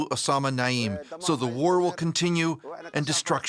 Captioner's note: foreign language